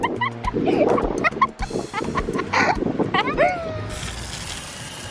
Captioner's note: laughing